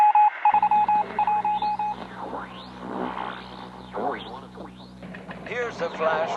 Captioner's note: morse code; radio static, tuning; teletype